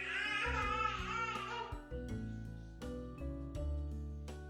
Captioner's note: crying